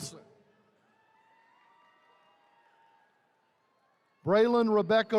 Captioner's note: attendees cheering